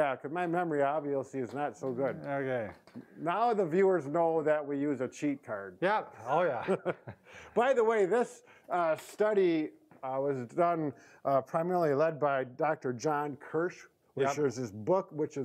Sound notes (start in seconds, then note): 6.2 laughs